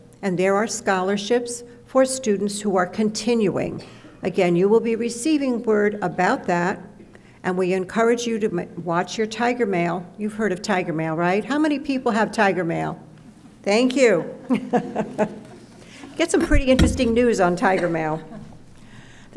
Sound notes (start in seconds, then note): 14.4 laughs